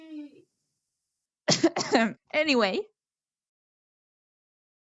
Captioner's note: coughing noises